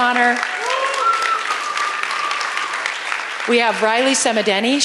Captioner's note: applause